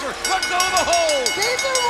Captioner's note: bell ringing